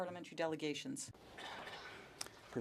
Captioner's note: speaking French